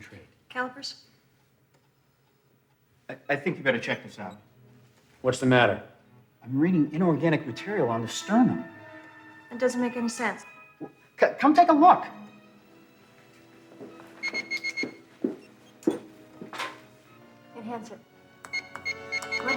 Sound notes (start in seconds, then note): 14.2 computer beeps; 18.4 dramatic music